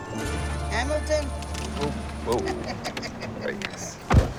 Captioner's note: laughs